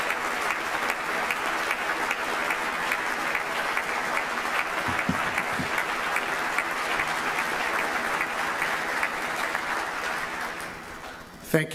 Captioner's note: applause